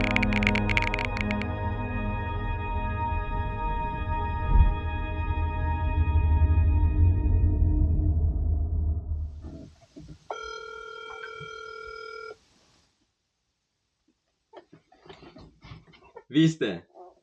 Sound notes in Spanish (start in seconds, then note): 10.2 teléfono sonando